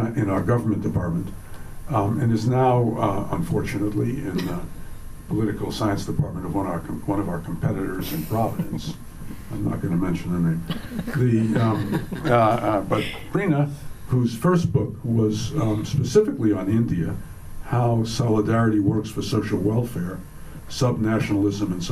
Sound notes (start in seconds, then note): 10.7 laughs